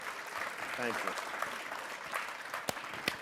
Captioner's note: applause